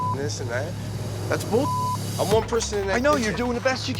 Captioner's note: beep